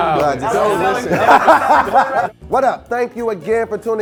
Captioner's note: laughing; upbeat jazz music